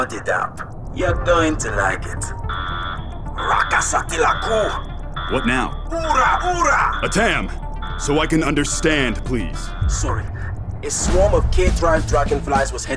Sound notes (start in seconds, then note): 2.6 alarm blaring; 3.7 speaking alien language